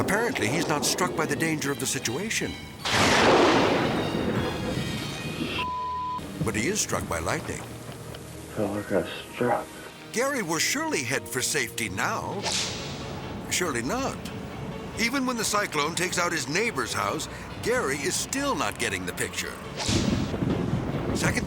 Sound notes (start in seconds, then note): 3.0 thunder crashing; 12.4 whip cracks; 19.6 thunder rumbling; 19.7 whip cracks